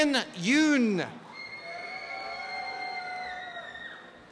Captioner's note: applause and cheering